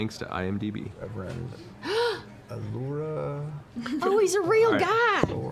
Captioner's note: gasps